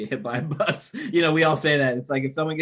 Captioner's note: laughs